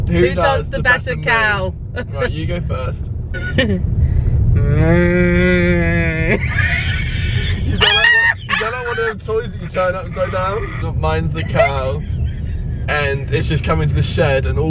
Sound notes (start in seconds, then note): 6.0 laughs